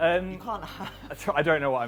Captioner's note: laughing